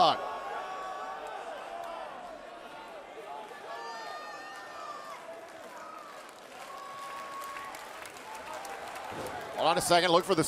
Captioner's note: crowd cheering